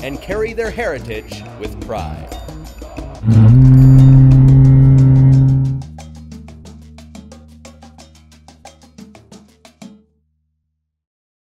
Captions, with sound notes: and carry their heritage with pride. (horn blows)